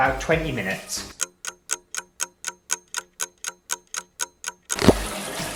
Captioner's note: clock Ticking